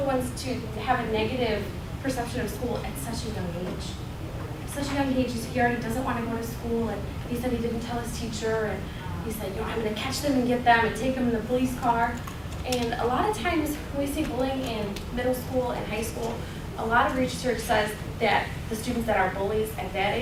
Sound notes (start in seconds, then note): none